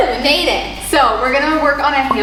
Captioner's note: claps hands softly